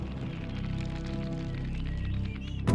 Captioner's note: birds chirp